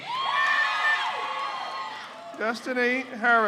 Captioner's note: crowd cheers